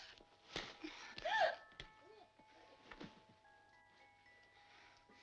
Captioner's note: Dolly gasps